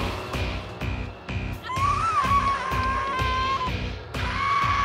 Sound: screaming

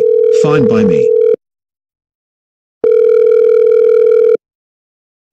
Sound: phone line ringing

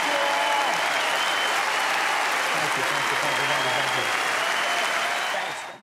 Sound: audience applauding continues

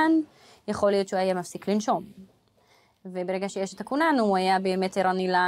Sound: speaks foreign language

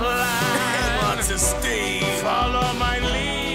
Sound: coughs

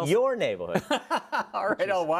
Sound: laugh

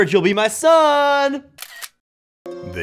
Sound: camera snaps

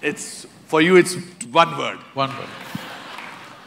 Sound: laughter

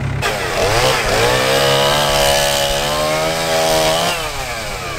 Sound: chainsaw sawing

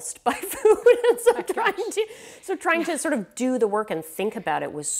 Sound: laughing

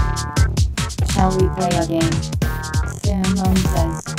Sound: female robot voice

